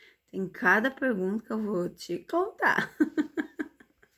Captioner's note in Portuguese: risadas